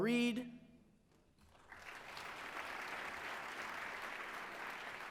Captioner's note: applause